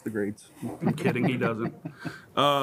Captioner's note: laughs